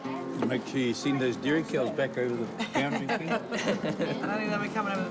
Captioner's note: laughter